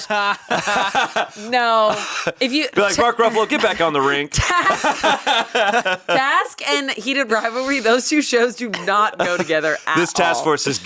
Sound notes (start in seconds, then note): 0.0 laughing; 5.8 laughs